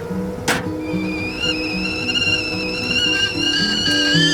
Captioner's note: kettle whistles